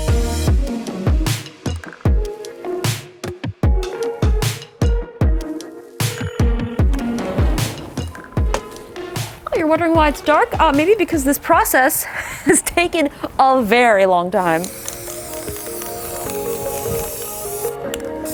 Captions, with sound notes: Oh, you're wondering why it's dark? Maybe because this process has taken a very long time. (spraying)